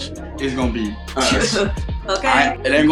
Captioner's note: laughs